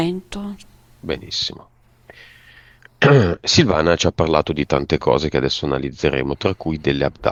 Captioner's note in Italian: schiarire la voce